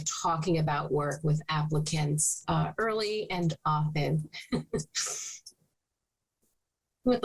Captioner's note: chuckling